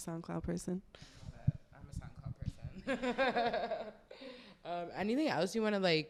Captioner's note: laughs